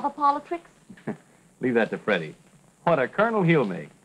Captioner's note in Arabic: يضحك